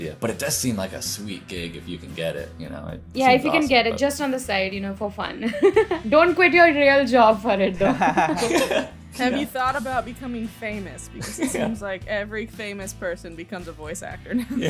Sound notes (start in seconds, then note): 5.5 laughs; 7.8 laughter